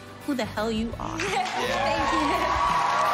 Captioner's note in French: applause